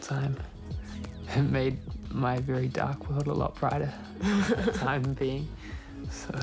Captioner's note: chuckles